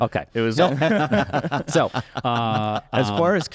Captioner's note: laughter